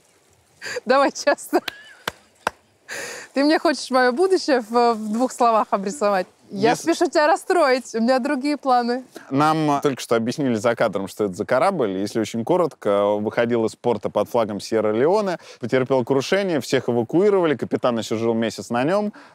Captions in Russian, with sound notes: (смеясь) Давай честно. (Дудь хлопает) Ты мне хочешь мое будущее в двух словах обрисовать? Я спешу тебя расстроить — у меня другие планы. — Нам только что объяснили за кадром, что это за корабль. Если очень коротко, он выходил из порта под флагом Сьерра-Леоне. Потерпел крушение. Всех эвакуировали. Капитан еще жил месяц на нём.